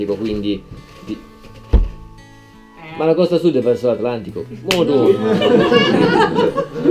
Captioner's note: slap